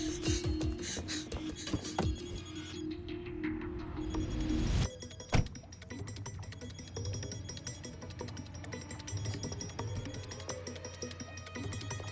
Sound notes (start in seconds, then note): 0.5 cellphone ringing